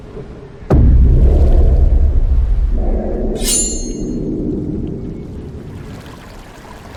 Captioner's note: body thudding; sword clanging